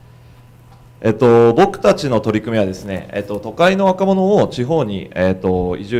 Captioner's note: speaking foreign language